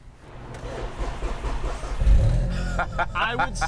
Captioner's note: engine cranks; laughs